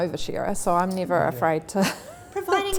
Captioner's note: laughs